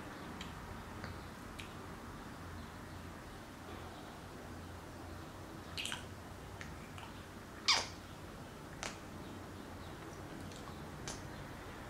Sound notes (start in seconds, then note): 5.7 saliva noise; 8.7 more kissy saliva noises